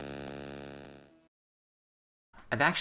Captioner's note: static